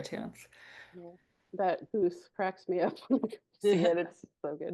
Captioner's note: laughs